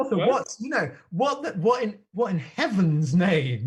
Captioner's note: none